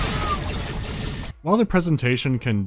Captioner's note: explosions, grunt screams, heavy gunfire